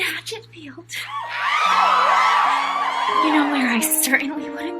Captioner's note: audience cheers